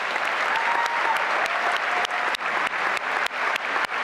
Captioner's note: applause and cheering